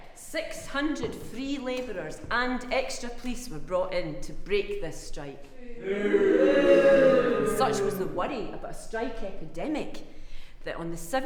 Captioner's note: booo